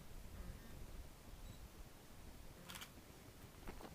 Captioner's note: camera clicking